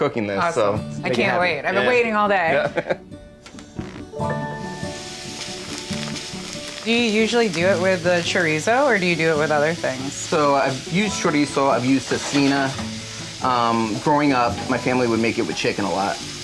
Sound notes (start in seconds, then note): 2.5 chuckles; 3.3 bright music; 3.3 chorizo sizzling